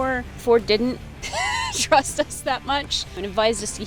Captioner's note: laughs